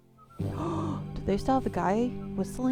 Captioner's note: gasp